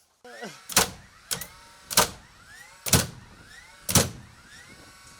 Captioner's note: nail gun popping